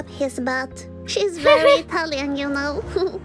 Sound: chuckles

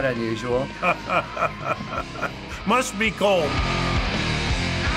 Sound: chuckling

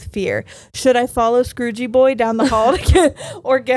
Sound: laughs

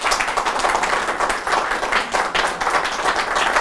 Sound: applause

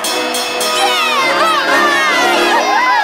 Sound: bell ringing; cheering

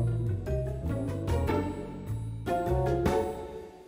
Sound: none

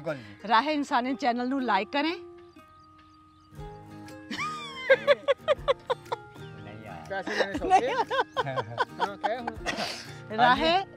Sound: laughing

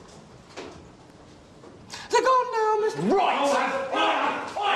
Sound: high voice

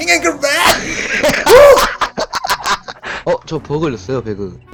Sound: laughter

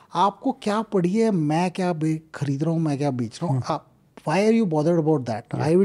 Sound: speaks in Hindi

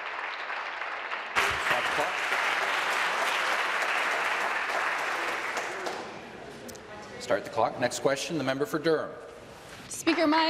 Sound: applause

